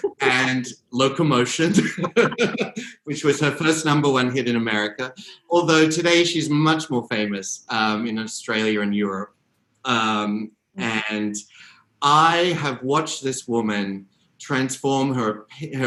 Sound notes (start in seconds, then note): 1.6 both laughing